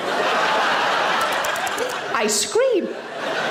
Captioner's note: audience laughing; smacking lips; audience laughing